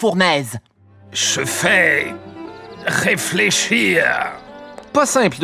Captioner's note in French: accent autrichien